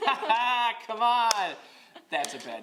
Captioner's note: laughter